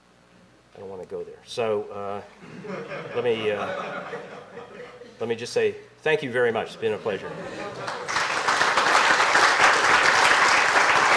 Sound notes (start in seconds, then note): 2.4 laughter; 7.8 applause